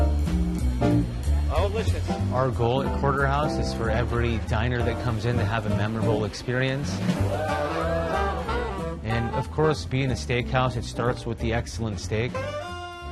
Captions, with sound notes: -Delicious. -Our goal at Porterhouse is for every diner that comes in to have a memorable experience. [ People cheering ] And, of course, being a steakhouse, it starts with the excellent steak.